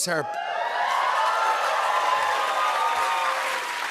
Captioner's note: cheers and applause